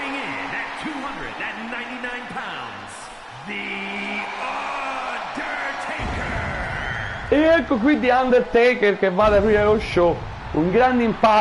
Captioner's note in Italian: Applauso